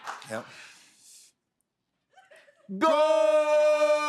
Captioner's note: both inhale deeply